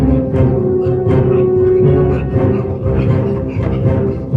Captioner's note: panting